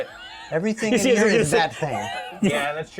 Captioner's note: laughs